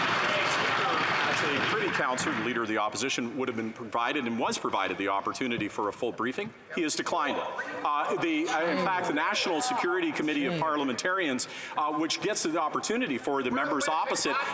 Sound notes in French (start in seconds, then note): 5.5 voix de l'interprète